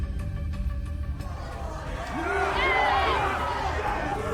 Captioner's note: crowd cheers